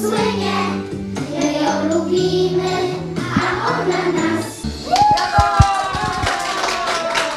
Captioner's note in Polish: oklaski